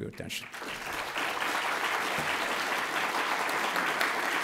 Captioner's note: audience applauds